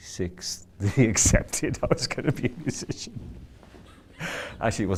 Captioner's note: laughs